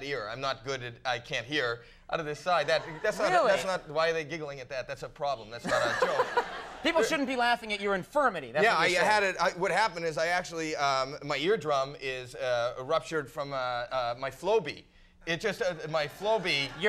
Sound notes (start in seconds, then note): 2.6 audience giggling; 5.7 Conan chuckling